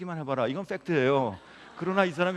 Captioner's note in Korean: 웃음